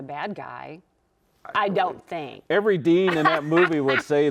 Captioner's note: laughing